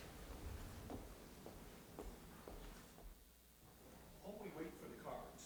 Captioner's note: footsteps clacking